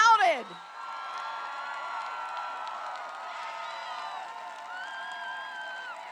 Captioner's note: applause